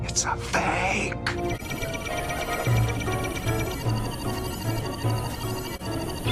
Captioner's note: BOTW guardian ATTACK BEEP